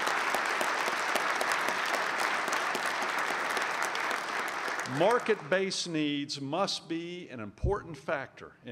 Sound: applause

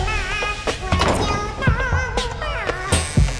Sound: door closes

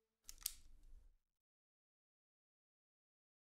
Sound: flashlight clicks off

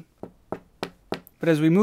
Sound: resonant tapping

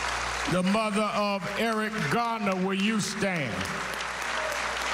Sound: cheers and applause

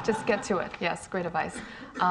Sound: laughing

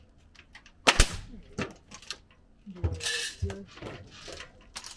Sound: hammer banging continues; electric stapler shooting

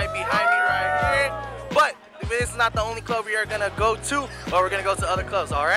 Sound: clapping and wooing

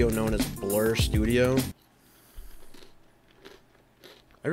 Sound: crunch munch crunch

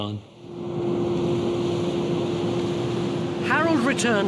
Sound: ships roaring

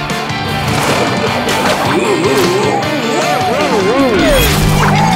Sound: groaning

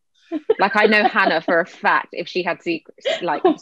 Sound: laughing

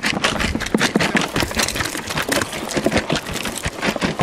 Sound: banging

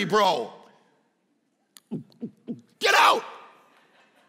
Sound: gulps

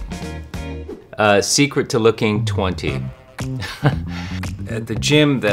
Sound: chuckles

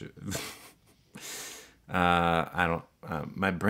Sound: laughs

